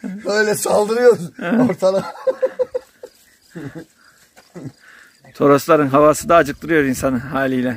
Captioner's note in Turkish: يضحك